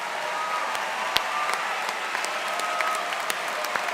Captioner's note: cheers and Applause